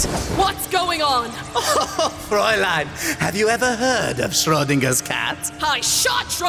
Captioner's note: laughs